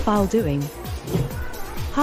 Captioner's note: whoosh Sound